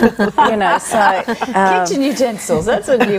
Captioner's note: laughter